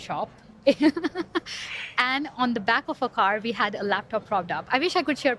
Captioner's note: laughs